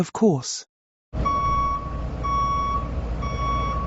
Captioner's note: beep, beep, beep